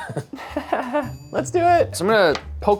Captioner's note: chuckles